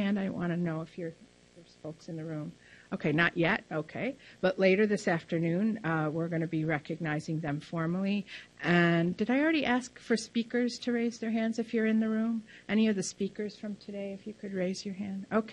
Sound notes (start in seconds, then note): none